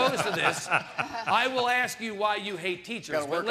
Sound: panel laughing

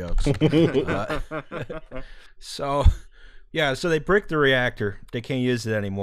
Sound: laughter

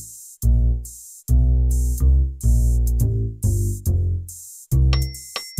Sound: metronome

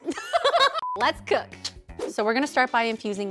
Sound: everyone laughs; tsks

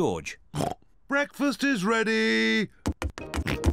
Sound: oinks; oinks and giggles

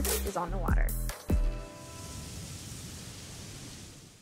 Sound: waves crashing

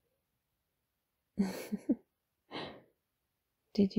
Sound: laughs

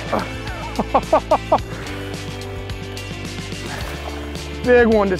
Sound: laughing; water splashing

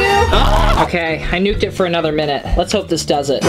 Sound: murmurs

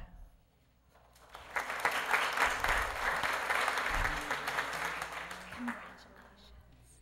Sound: applause

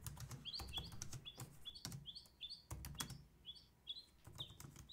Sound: keyboard clicking

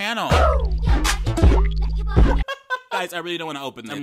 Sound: R&B music; man laughing

